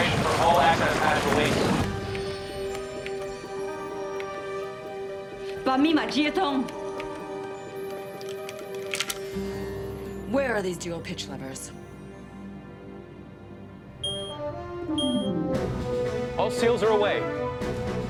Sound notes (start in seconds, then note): 6.1 speaks foreign language; 14.0 beeping